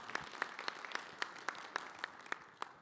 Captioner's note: attendees applauding